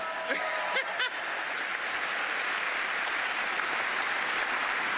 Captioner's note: cheers and applause